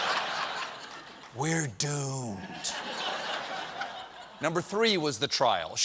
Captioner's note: laughter